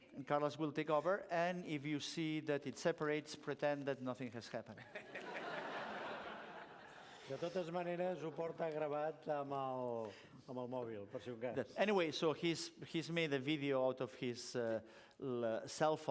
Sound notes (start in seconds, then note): 4.7 laughter; 8.0 non-english speech